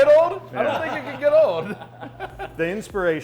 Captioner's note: laughing